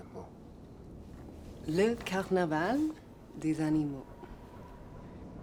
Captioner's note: French spoken audio